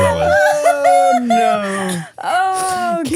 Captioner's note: everybody laughing